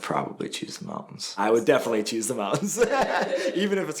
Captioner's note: laughs